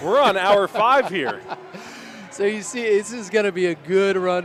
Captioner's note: laughter